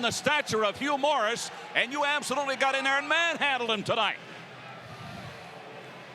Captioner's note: none